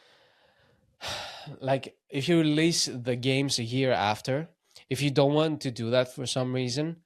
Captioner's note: sighs